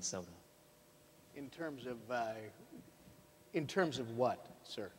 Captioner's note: none